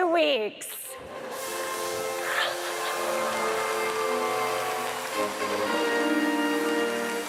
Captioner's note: audience applauds; trumpet music